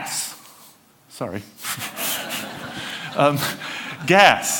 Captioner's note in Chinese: 笑聲